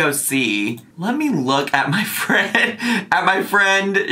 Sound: chuckles

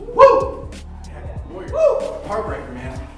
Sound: voiceover

